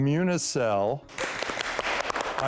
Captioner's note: clapping